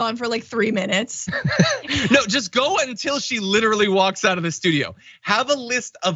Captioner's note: laugh